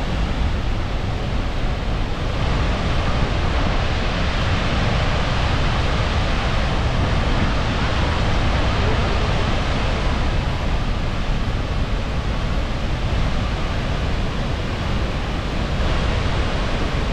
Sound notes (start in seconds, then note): 11.7 waterfall sound